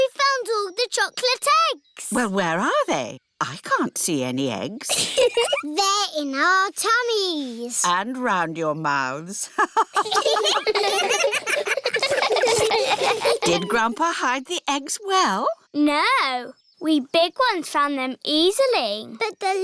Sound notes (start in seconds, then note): 4.8 giggles; 9.5 laughs; 9.5 all laughing